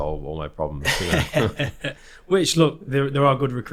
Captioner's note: both laughing